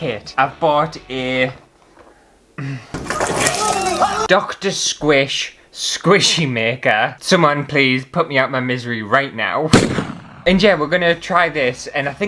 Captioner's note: bang!